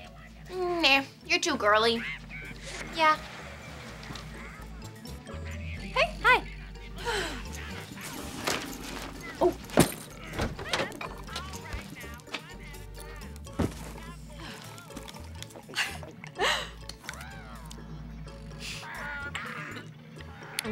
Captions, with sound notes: Nah. You're too girly. Yeah. - Hey. - Hi. [sighing] Oh. [chuckles]